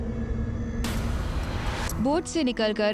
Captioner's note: narrating